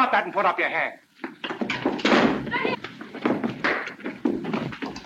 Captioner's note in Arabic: أصوات ارتطام الأجساد